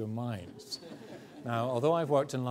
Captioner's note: audience laughs